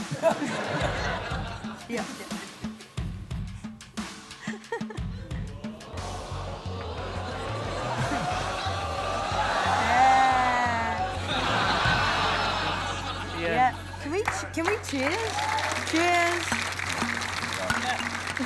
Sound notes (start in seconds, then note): 0.0 laughter; 5.8 audience exclaims; 11.5 laughter